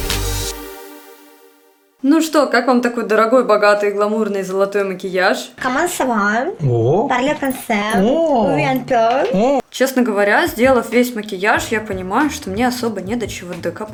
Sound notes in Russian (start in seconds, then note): 5.6 Наверное, что-то на французском